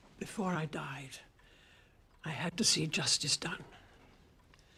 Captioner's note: none